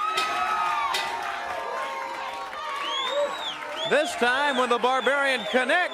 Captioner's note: bell ringing; crowd cheering